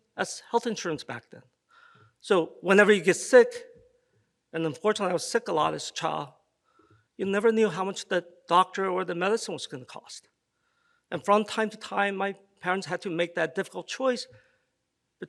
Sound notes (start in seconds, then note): none